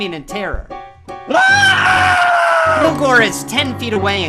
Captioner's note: Ted screaming